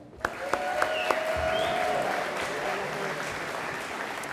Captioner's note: audience applauding